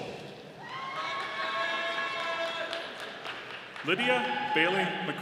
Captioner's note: audience applauding